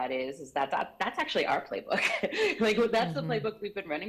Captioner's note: chuckles